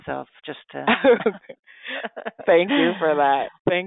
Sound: chuckling

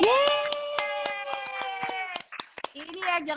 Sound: applause

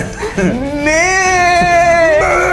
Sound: moos

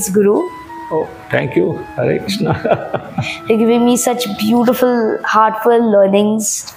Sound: laugh

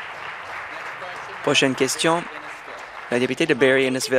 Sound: applause

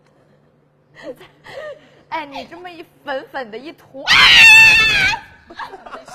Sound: screaming!

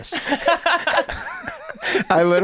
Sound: Rob and Megan laughing

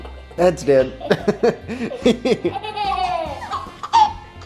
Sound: laughter

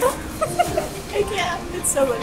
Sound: laughing

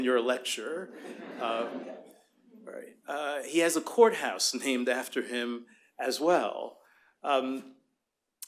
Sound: laughter

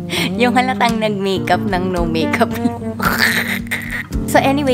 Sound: laugh

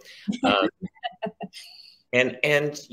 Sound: laughs

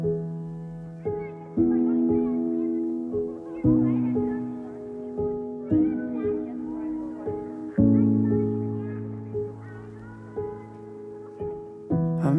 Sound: distant cheerful voices

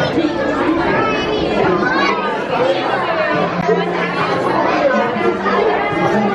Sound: chatter

